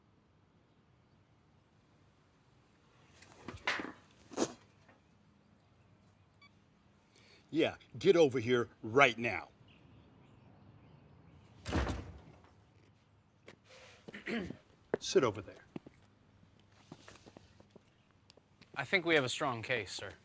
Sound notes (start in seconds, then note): 6.4 phone beep; 11.6 door slams shut; 14.1 Tommy clears his throat